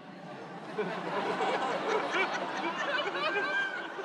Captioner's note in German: vereinzelte Lacher